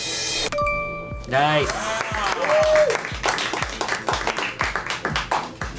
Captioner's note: colleagues applauding